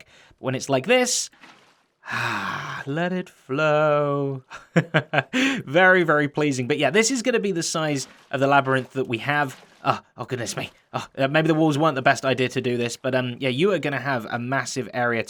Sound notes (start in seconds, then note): 2.0 sighs